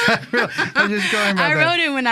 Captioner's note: both laughing